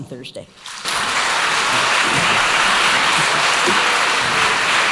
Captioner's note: audience applauding